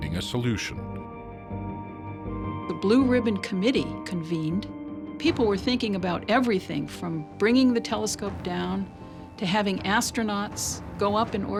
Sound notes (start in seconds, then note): none